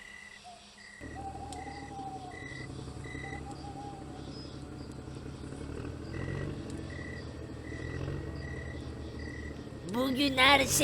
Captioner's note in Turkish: Araba sesi